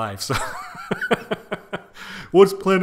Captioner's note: chuckles